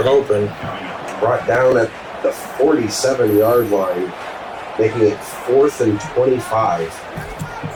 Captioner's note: crowd Noises